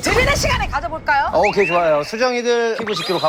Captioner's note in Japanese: 大きな同意